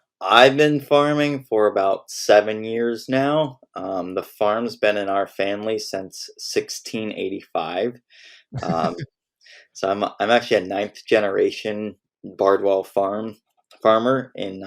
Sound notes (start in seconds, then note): 8.5 laughs